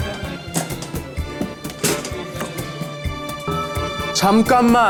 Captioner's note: clank